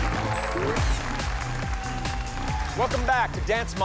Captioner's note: applause and cheering